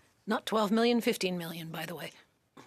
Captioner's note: speaking French